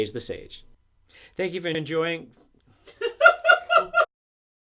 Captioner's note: someone in the background starts dying of laughter